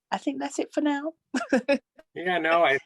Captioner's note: laughter